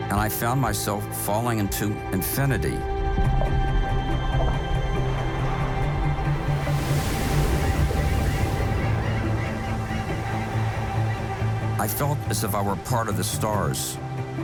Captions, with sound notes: and I found myself falling into infinity. (uplifting music) (waves crash) (birds chirping) I felt as if I were part of the stars.